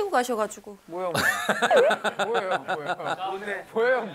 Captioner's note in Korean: 푸흡